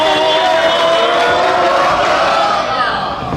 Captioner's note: audience cheering; shouting